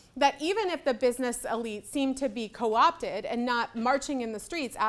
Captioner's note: none